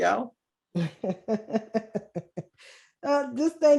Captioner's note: laughing